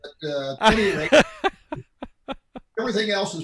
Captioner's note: laughs